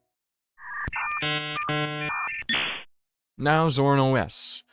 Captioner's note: dial-up sounds